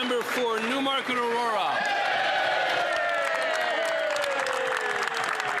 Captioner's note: some Applause